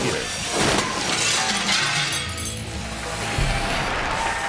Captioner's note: glass shatters; text whooshes; audience cheering and clapping